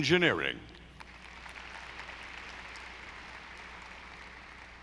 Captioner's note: audience applauding